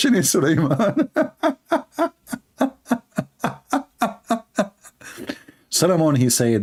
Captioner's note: Ketawa